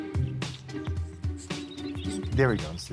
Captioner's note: chirping